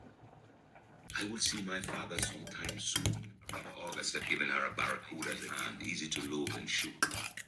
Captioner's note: fork mashing potatoes; audiobook in Caribbean accent